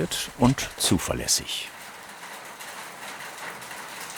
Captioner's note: continuous pattering